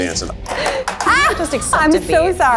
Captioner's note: shouts in frustration